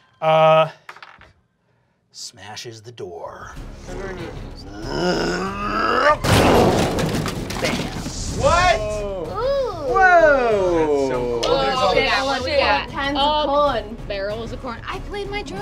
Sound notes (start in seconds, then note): 0.8 dice clacking; 4.6 roaring; 6.2 crashes